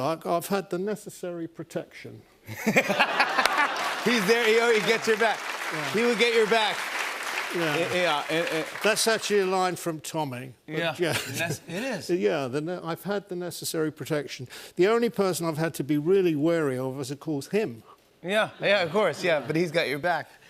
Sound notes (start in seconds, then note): 2.6 laughter and applause